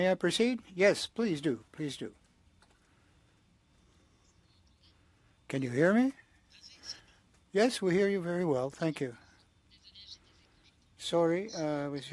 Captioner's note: speaking French